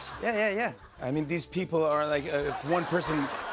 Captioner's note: tattoo needle buzzing